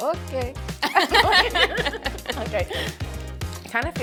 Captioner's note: both laughing